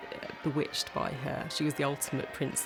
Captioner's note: church bells ringing